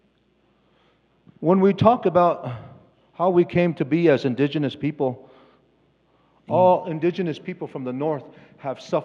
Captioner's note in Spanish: Expositor habla en inglés